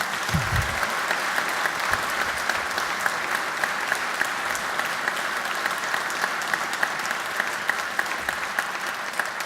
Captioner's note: applause